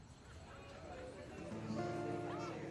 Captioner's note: crickets chirping; patrons chattering; lively music playing